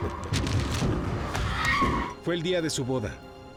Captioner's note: screams